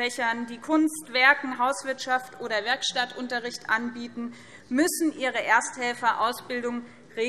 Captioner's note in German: none